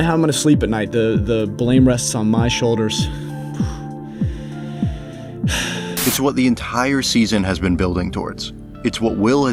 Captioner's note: sigh